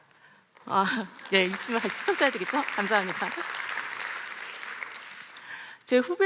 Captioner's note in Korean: 박수